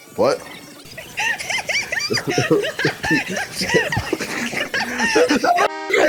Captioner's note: giggling at the bobblehead in front of them